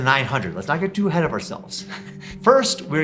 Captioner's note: laughs